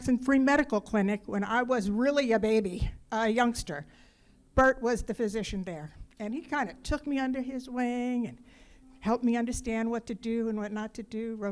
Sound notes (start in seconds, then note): none